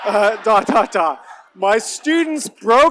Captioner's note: laughter